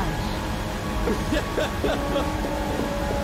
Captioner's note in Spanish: risas